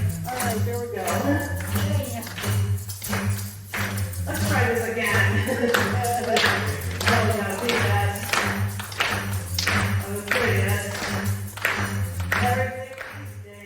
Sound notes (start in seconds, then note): 5.4 clapping